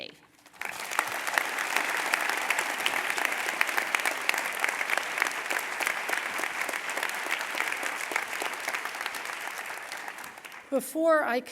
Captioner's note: applause